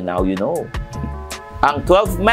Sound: scoffs

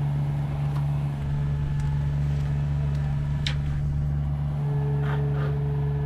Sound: machine engine rumbling continues

